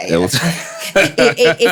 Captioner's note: laughing